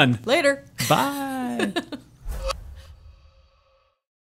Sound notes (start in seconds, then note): 1.8 laughing